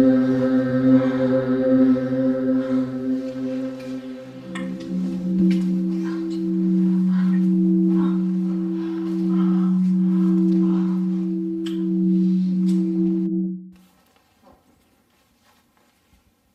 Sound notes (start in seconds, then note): 7.8 moaning